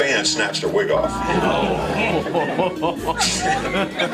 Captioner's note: laughter